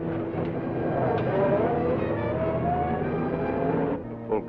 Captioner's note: engine rumbles